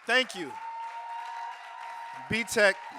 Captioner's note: audience cheering and applauding